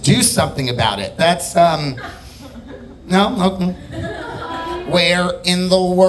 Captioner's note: audience laughing